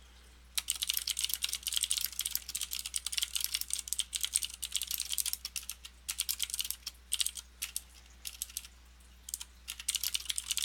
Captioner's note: typing